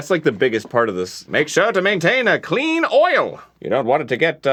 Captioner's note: in a pan-pacific accent